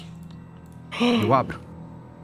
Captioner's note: sighs